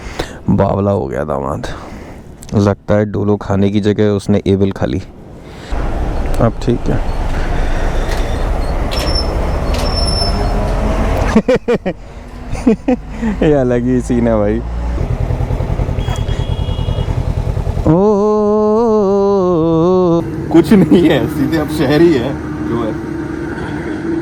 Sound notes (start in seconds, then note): 9.1 laughter; 17.8 humming